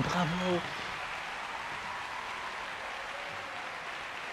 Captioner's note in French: applaudissements